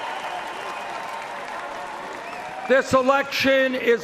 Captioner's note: cheers and Applause